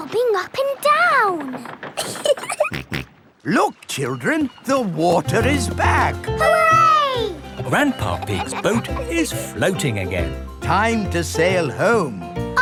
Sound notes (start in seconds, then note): 2.0 giggling; 2.2 snorts